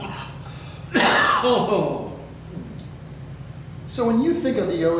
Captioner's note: coughs